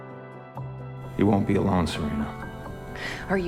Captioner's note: voiceover